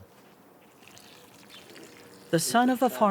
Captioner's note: water splashing